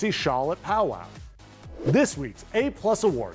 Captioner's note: screen whooshing